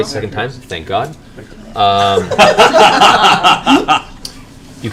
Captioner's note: laughter